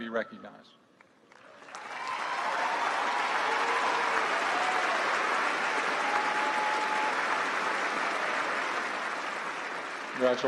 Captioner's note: applause